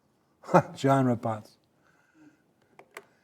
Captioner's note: chuckling